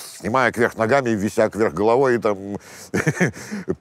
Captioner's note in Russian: усмехается